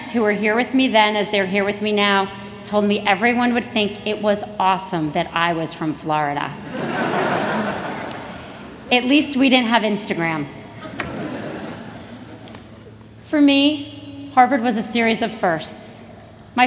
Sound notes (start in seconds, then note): 6.6 laughter